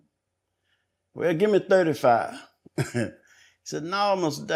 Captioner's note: chuckles